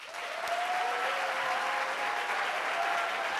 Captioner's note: applauding